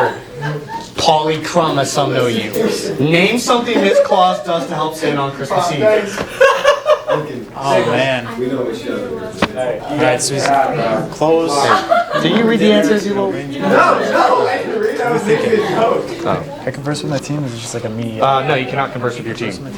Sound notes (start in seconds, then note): 6.2 laughs for some reason; 8.6 talking; 11.0 a bunch of talking